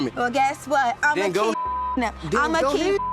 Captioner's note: beep; beep